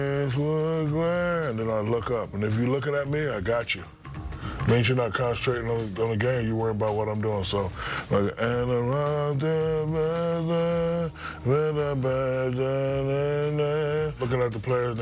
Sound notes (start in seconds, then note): 7.9 singing; 11.3 humming